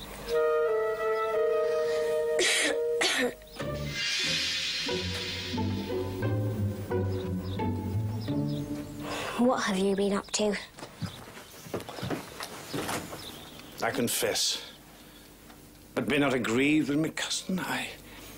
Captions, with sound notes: (Bess coughing) (mystical music) What have you been up to? - I confess but do not a grieve with me cousin,